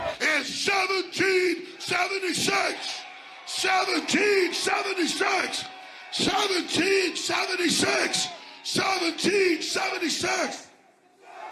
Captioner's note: applause